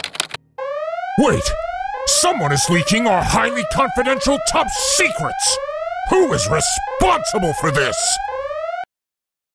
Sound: sirens

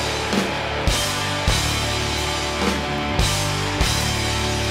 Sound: audience cheering

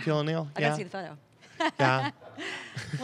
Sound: laughs

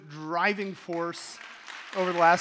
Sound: audience applauding

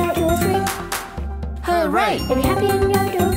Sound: clapping

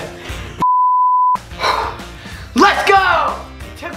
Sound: beeping

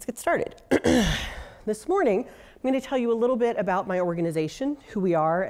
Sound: cough

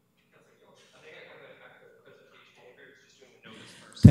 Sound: clerk speaks off mic

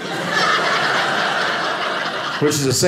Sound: audience laughing

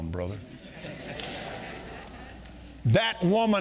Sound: congregation laughing

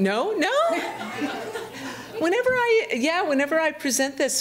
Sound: audience laughing

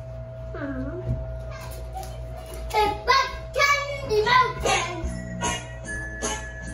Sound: speaker feedback

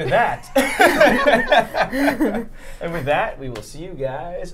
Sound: all laughing

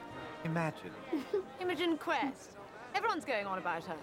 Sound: giggles

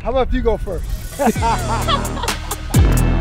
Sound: both laughing; car engine revving; upbeat rap music

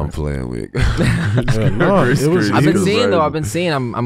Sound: Iman and Miles giggling

